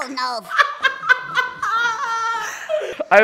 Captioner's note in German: Lachen